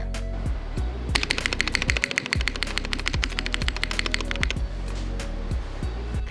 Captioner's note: clacky sounds